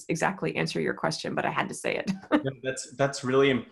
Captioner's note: laughs